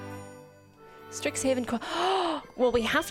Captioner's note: gasps